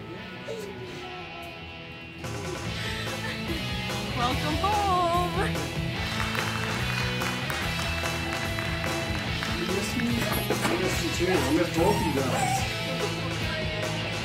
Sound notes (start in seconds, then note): 0.2 joyful holiday music; 5.7 crowd clapping